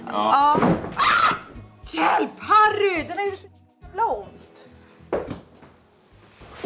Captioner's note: screams